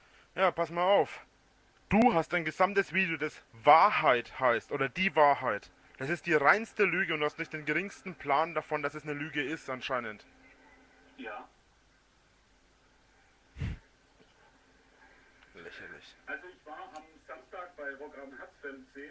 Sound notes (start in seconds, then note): 13.5 wheezes